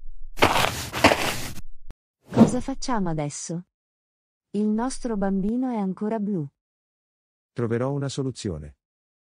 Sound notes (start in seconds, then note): 0.4 FX - Footsteps - On Multiple Dirt - Walk; 2.1 FX - Whoosh - 03